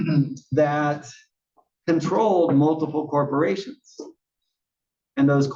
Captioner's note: cough